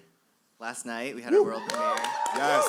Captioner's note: applause